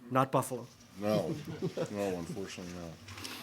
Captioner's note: laughter